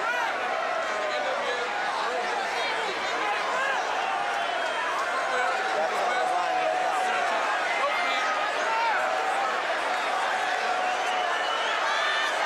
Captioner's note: crowd cheering